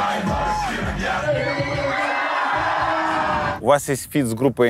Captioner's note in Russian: зал ликует